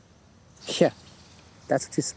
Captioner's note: chuckles